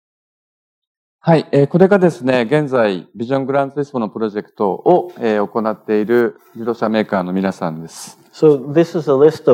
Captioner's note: speaking japanese